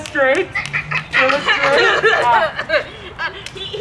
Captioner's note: coughs